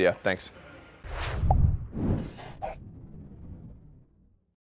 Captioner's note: whooshing